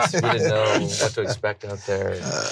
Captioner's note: laughs